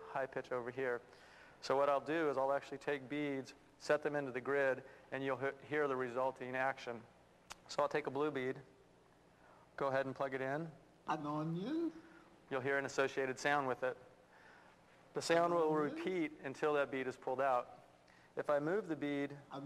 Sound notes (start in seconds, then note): 11.2 foreign language spoken